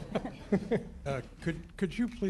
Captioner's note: laughter